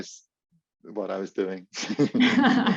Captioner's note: laughs